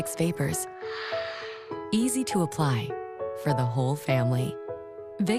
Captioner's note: exhales